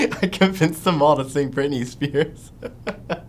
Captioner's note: laughing